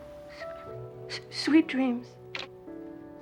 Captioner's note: stutters; receiver clicking